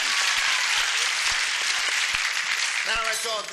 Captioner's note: applause